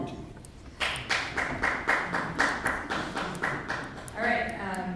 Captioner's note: sparse clapping